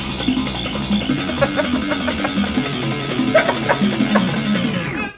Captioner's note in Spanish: Risas